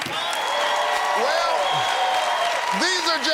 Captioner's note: cheers and applause